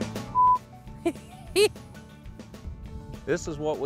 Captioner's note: laughing